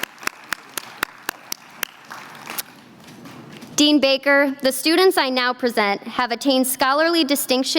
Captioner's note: applause